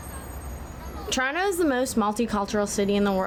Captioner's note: brakes squeal